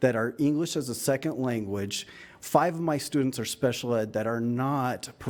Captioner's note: none